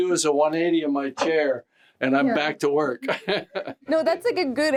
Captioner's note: laughs